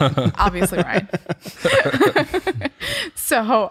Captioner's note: laughter